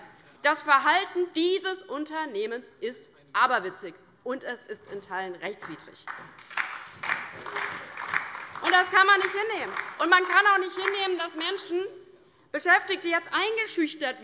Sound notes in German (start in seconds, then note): 5.6 Beifall bei der LINKEN und der SPD